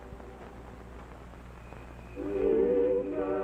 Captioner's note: crickets chirping; choir music